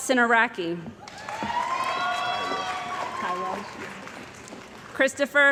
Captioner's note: cheering & Applause